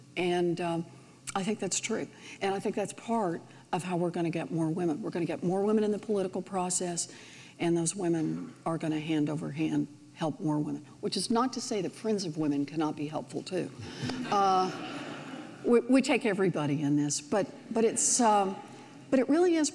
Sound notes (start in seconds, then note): 14.1 audience laughs